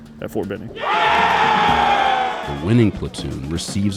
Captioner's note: trainees cheering